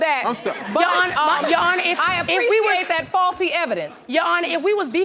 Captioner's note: audience laughing